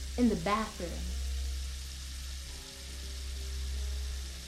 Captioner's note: water running